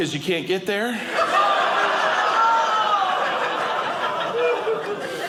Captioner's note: audience laughing